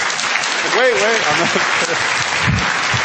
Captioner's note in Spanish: Aplausos